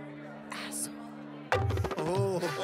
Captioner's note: Whispering; Laughs